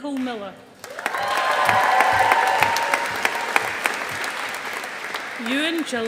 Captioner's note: audience applauding